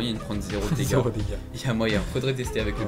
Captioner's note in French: rire